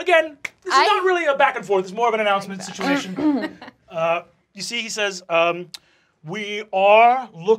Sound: laughter

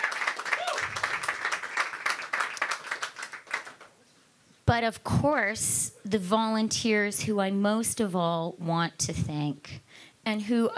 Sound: cheering and Applause

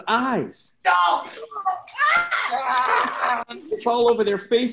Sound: grunting, yelling

